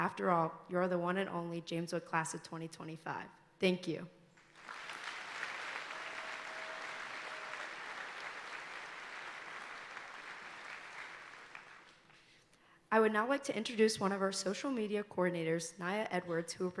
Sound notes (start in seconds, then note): 4.4 audience applauding